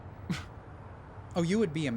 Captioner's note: guy scoffs